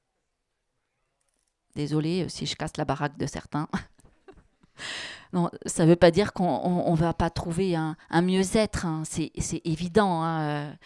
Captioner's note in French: elle rit